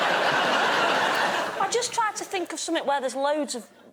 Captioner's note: laughter